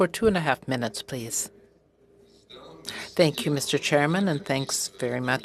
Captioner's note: speaking French